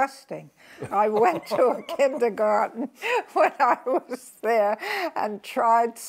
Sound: laughs

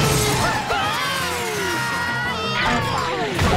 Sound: screaming

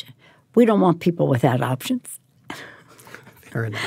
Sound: laughs

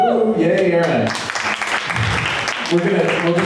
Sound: applause

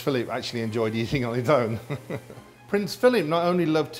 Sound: laughing

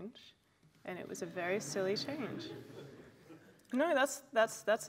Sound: laughter

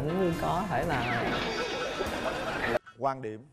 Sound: laughing

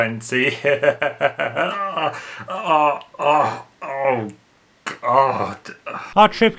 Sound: laughs

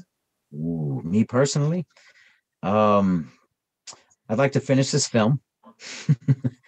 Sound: chuckles

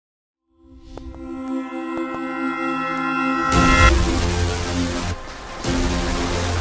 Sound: sound of CB Aviation into logo

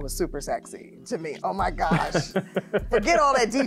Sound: laughing

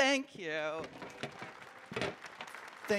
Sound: audience applauding

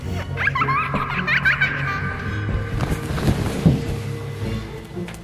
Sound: suspenseful music; eerie child giggling

